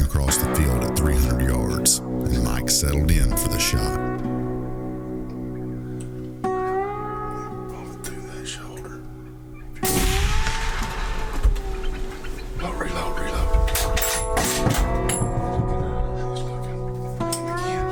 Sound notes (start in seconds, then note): 9.8 rifle blasts; 13.9 rifle casings falling